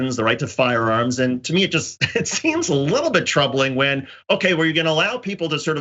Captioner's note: laugh